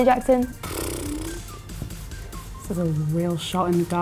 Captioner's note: blows raspberry